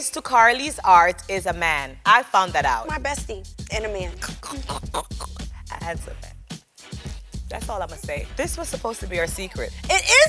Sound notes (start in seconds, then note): 4.5 chuckles